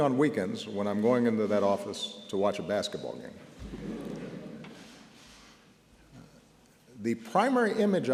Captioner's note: laughter